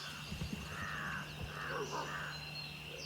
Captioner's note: dog barks